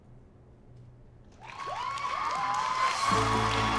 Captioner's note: audience cheers